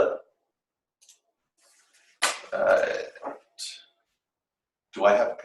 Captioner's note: silence